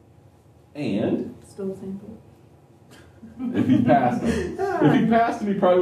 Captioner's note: laughter